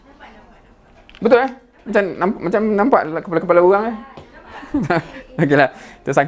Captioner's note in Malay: ketawa